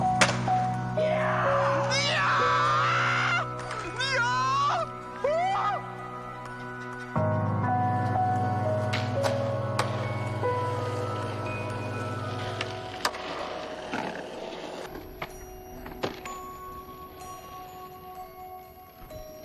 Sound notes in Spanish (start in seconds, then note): 0.9 grita; 4.9 grita